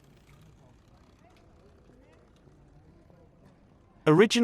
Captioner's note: people chattering